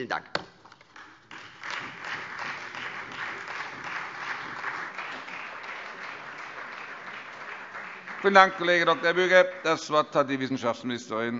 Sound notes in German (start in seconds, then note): 0.9 Beifall Freie Demokraten, CDU und vereinzelt SPD